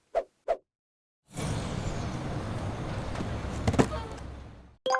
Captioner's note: engine running